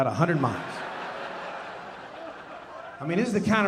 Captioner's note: audience laughing